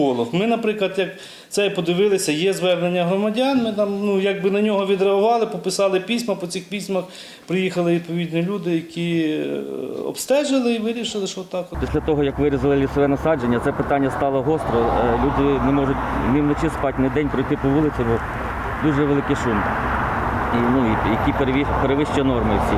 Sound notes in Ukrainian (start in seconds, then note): 11.8 на фоні йде сильний шум з траси